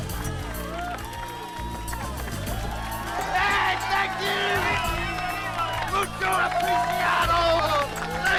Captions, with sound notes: - Hey, thank you! (group cheers) (Latrell speaking in foreign language)